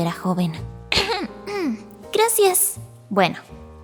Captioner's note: clears voice